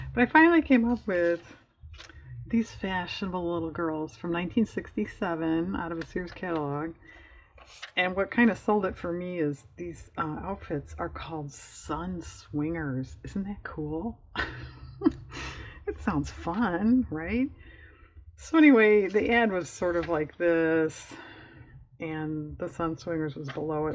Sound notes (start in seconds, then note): 14.3 laughs